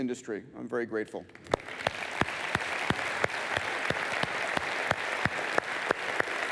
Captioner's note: applause